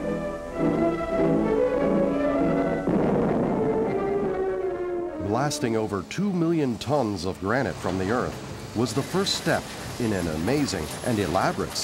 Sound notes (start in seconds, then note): 2.3 boom!